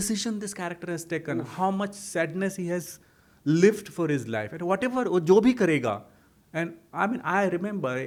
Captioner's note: hindi